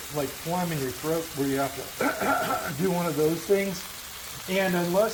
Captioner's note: clears throat